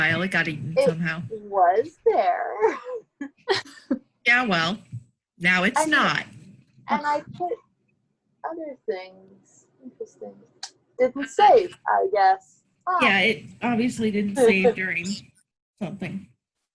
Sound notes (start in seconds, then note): 2.5 laughing